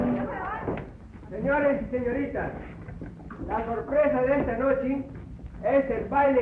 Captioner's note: speaking spanish